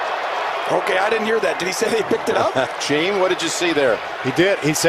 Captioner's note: chuckles